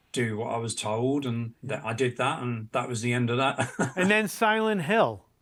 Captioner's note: laughs